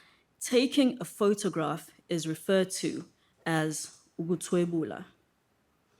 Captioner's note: speaking IsiZulu